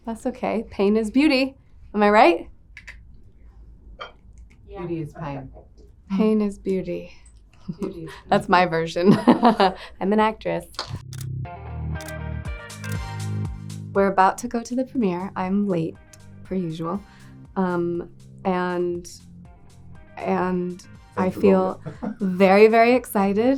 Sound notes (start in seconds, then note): 9.3 laughs; 12.4 upbeat funk music